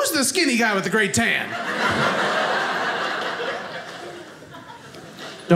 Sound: audience laughing

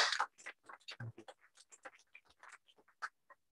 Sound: applause

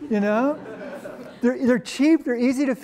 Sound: laughter

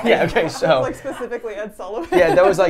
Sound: laughs

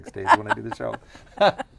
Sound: laughing

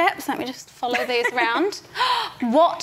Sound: laughs

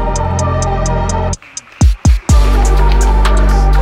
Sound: audience clapping

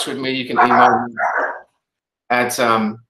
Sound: dog barking

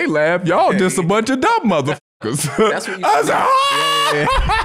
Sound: laughs

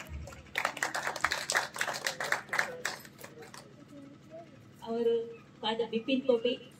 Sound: applause

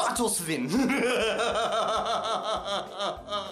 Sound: scary laughter

